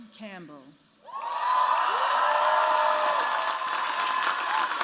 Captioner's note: cheers, applause